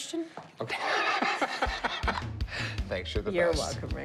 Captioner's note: laughs